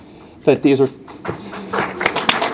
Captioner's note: applause